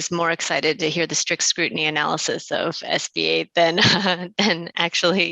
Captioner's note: chuckles